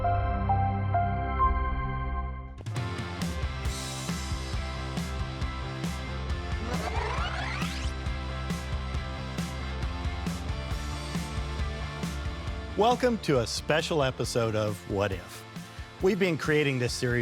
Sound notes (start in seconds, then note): 2.2 bright music; 5.9 upbeat music; 8.5 tape whirring; 8.5 upbeat music; 11.7 upbeat music